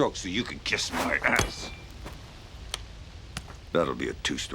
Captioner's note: club clanks